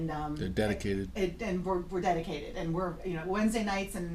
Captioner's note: voiceover